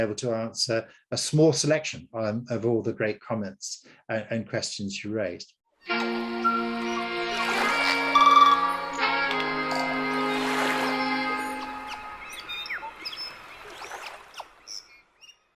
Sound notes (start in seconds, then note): 5.9 bright upbeat music; 11.3 birds chirping